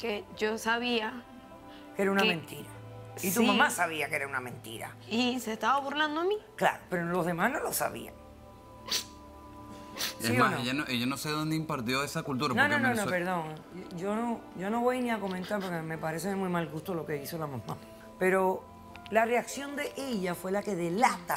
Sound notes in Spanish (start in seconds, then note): 9.7 Sollozos